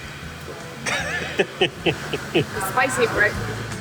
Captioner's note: laughs